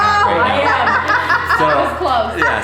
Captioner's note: laughing